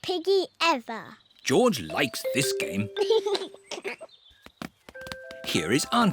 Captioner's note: giggles